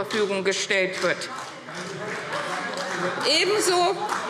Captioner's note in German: Beifall CDU – Widerspruch SPD